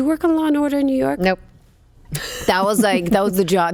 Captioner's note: laughs